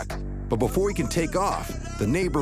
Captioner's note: man yelling